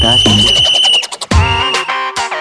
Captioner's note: Constable whistles